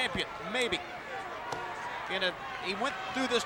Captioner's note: hands thudding